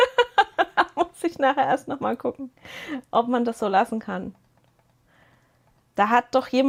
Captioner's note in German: gelächter